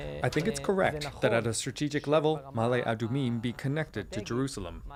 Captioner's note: speaking alternate language